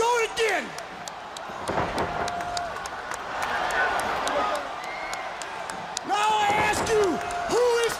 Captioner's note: crowd chatter